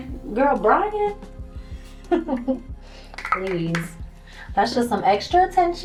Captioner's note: chuckles